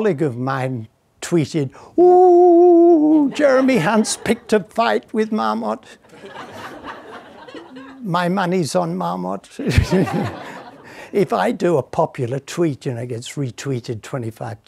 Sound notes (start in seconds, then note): 6.0 audience laughing